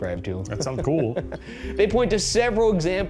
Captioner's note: laughing